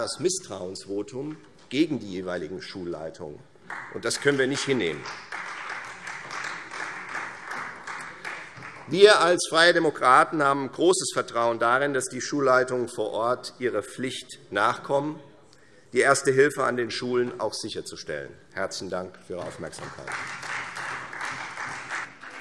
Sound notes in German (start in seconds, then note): 5.6 Beifall Freie Demokraten; 19.4 Beifall Freie Demokraten